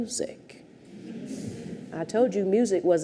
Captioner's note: audience chuckles